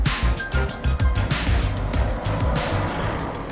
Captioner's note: traffic passing